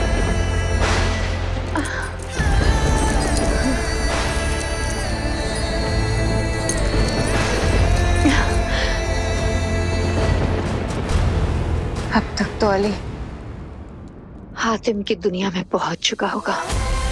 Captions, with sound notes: [metal clanks] By now Ali must have reached Hatim's world.